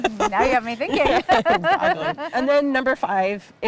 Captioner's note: laughing